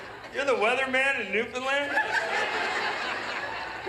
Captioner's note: laughter